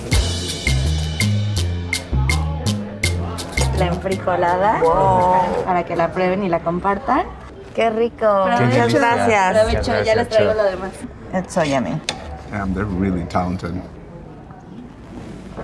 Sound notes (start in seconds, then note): 0.0 upbeat music; 4.3 speaking in Spanish